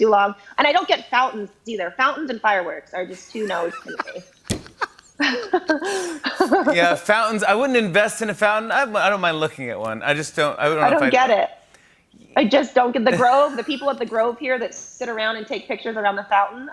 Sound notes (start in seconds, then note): 3.1 laughs